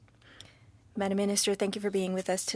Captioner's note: speaking french